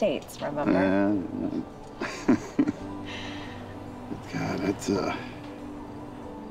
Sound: chuckles

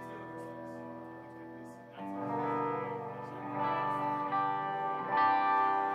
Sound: background Chatter

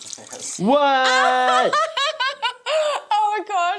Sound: presenter laughing

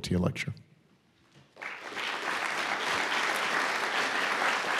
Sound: audience applauds

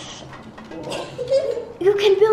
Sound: laughs

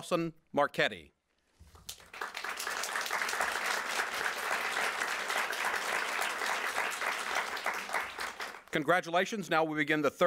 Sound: applause

